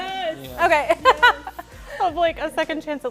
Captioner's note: laughs